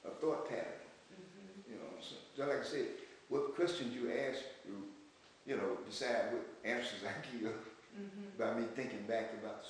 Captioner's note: laughs